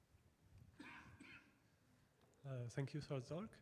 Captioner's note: audience member coughing